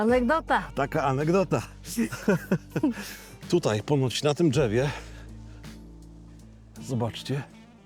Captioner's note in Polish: śmiech